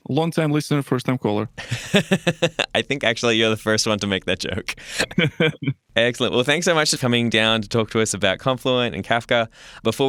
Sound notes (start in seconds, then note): 1.6 laughs